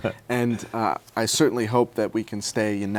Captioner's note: laughs